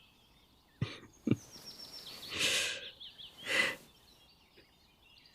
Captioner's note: laugh, more hugging